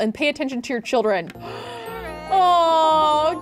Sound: gasping

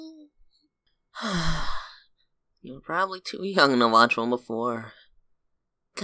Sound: sigh

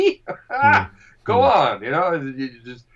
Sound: laughing

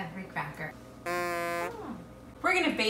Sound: fog horn honking

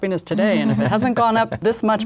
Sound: laughs

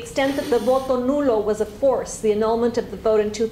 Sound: spanish

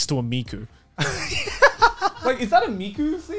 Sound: laughing

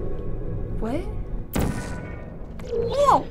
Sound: gun zaps

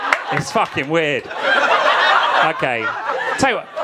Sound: audience laughing

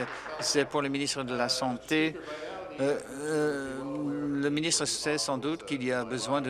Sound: applause

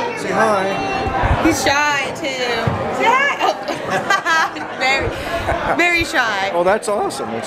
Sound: laughs

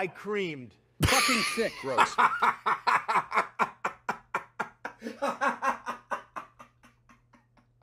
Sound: laughs

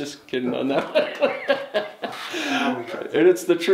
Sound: laughs

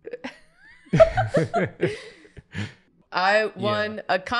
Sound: laughter

